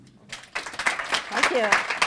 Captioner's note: applause